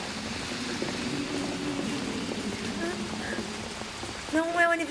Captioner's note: crying